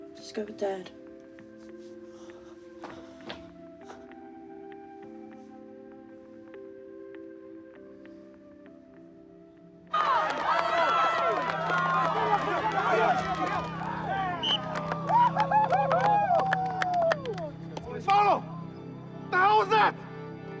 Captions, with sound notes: - Just go with Dad. - (SIGHS IN FRUSTRATION) (CHEERING, INDISTINCT SHOUTING) (WHISTLE TRILLS, PLAYERS WHOOP) - Paulo! The hell was that?!